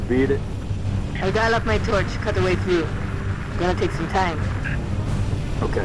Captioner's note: radio